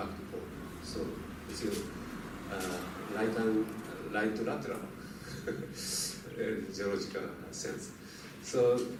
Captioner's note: laughs